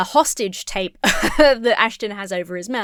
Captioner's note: laughs